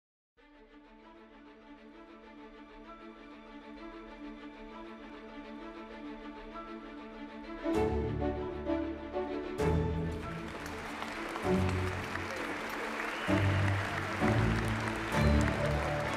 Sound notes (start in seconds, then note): 1.4 inspiring music; 10.0 audience clapping